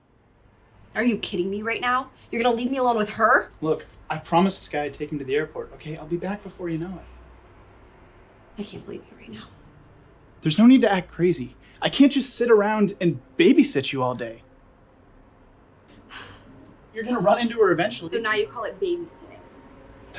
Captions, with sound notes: Are you kidding me right now? You're gonna leave me alone with her? Look, I promised this guy I'd take him to the airport, okay? I'll be back before you know it. I can't believe you right now. There's no need to act crazy. I can't just sit around and babysit you all day. (Kat scoffs) You're gonna run into her eventually. So now you call it babysitting.